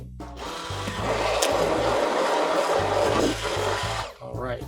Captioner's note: stick blender whirring